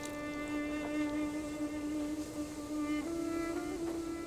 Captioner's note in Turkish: Rüzgâr sesi